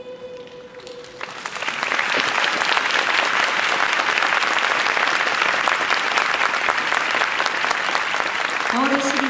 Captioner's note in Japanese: 拍手